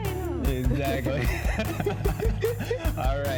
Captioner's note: both laugh